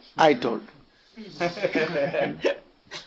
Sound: laughter

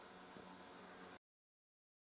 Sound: silence

